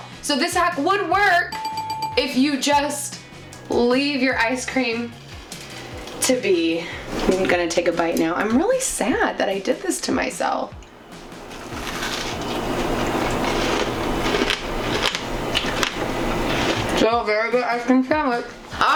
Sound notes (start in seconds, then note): 11.4 crunching